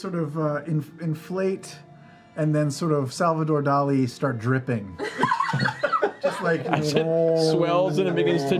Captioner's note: humming